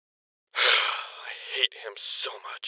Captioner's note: sighs